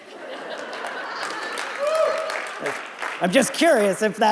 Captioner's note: audience laughing